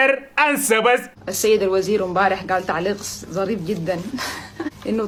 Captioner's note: laughs